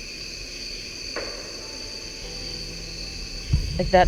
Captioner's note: object knocking